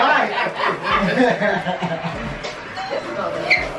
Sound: laughing

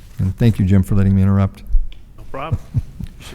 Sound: laughs

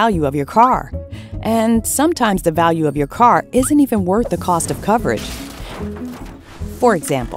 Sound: crash

